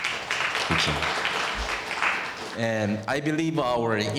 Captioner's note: audience applauding